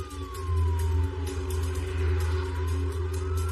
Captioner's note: siren waing